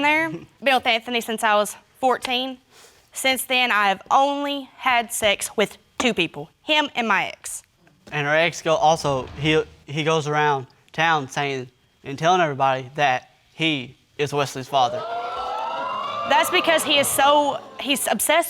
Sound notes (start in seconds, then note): 14.7 audience exclaiming